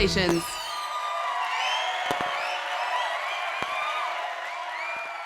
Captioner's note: people cheering